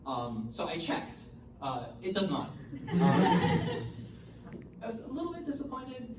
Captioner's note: audience laughter